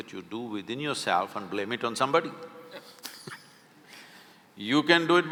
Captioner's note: both laugh